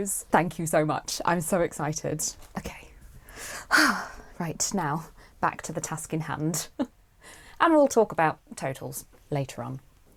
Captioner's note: exhales